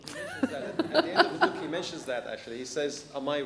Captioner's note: laughter